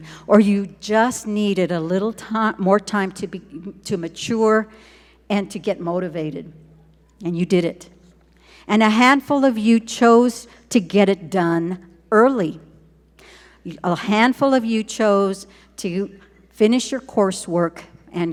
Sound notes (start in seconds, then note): none